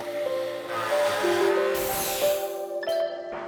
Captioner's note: drilling